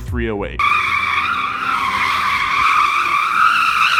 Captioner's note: tires screech